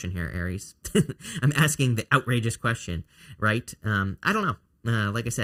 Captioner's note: chuckle